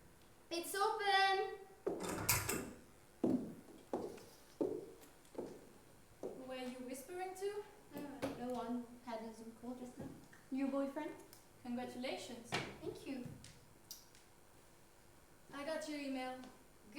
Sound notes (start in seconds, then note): 2.0 door opens